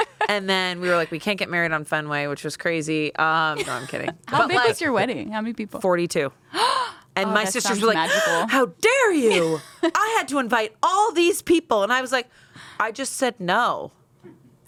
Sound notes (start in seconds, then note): 0.0 everyone laughs; 8.0 gasps